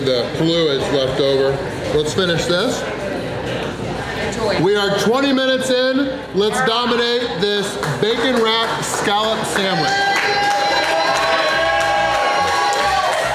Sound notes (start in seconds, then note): 10.8 crowd cheering